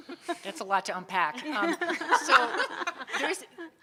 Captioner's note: audience laughing